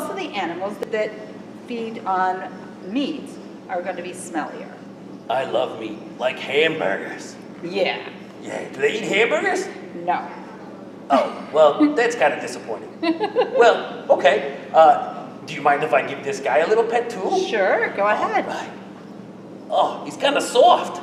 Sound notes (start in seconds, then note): 13.0 laughs